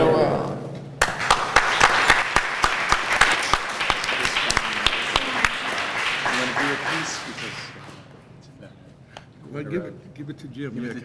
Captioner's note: applause